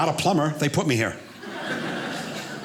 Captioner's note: audience laughing